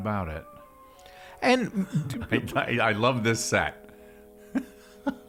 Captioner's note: laughs; suspenseful music; laughing